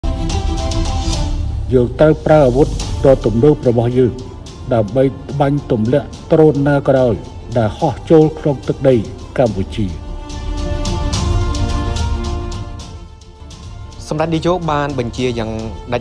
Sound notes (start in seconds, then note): 10.0 drone